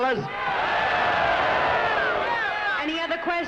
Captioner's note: crowd cheering